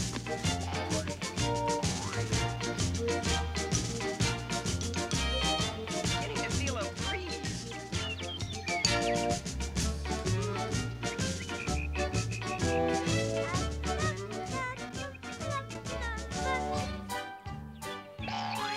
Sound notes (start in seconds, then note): 11.4 cricket chirping; 13.1 humming